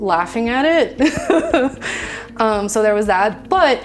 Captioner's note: laughing